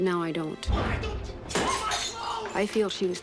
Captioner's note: glass shatters